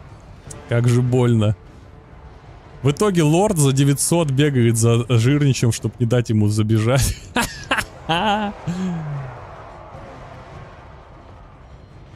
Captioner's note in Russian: смех